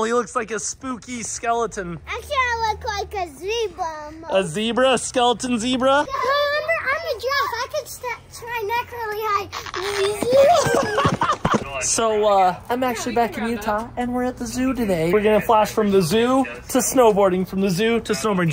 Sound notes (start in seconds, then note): 10.2 dad laughing